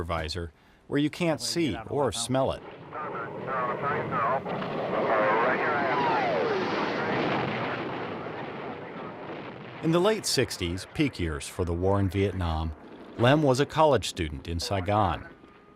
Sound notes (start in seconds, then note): 1.2 jet fighter and headset conversation; 6.7 bomb exploding